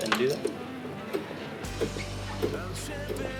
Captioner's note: clicking